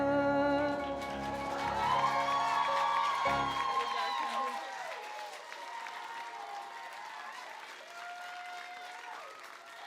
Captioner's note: applause